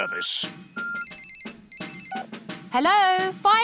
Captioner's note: phone rings